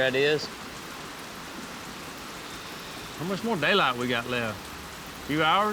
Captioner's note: rain falling